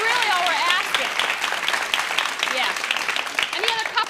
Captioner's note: clapping